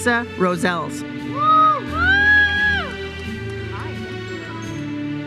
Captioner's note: audience members cheer